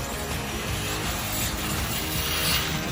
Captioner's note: tires whirring; upbeat music